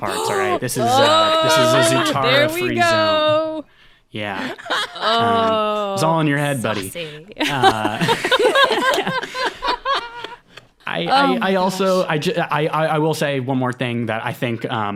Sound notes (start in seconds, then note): 7.4 laughing